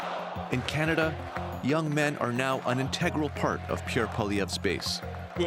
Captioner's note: chanting